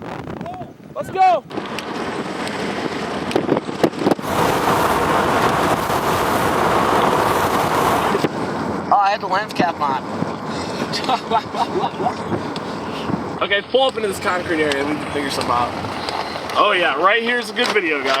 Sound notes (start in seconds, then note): 10.6 chuckling